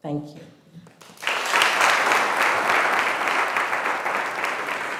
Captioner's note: audience applauding